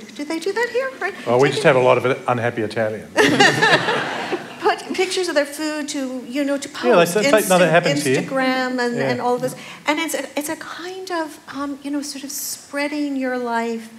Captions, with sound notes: Do they do that here, Frank? >> We just have a lot of unhappy Italian. [ Laughter ] >> Put pictures of their food to-- you know, to post in Instagram and all those. And it's a kind of, you know, sort of spreading your life